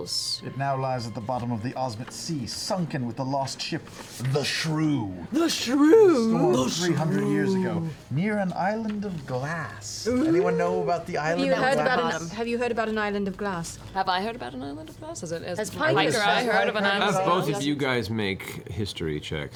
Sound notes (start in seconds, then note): 5.4 sing-song; 6.4 deep voice